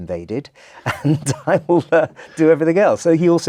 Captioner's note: laugh